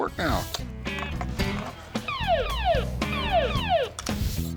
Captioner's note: blaring